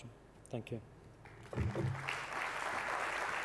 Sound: applause

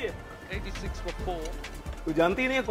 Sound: TV playing

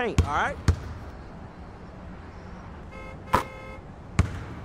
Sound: distant horn honks

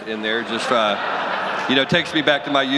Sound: audience laughs

